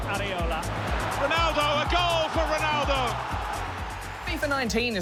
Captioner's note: crowd roars